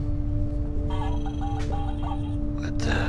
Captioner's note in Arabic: طنين آلي